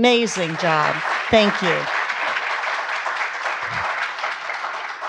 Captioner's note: audience applauds